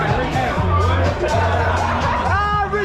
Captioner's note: group laughs